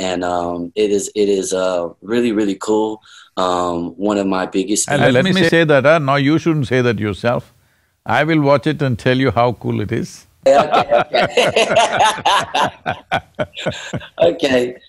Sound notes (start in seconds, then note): 10.4 laughs; 13.3 both laugh